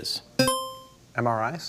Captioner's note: buzzer chimes